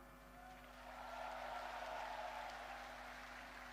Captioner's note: applause